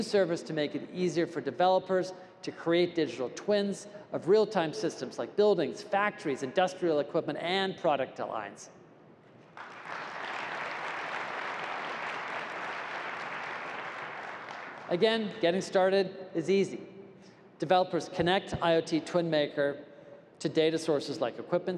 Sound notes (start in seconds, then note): 9.5 applause